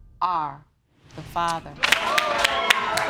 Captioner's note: audience applauding